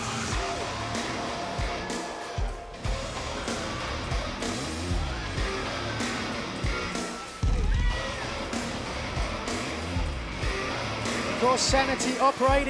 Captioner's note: crowd chatter